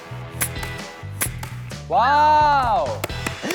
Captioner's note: sniff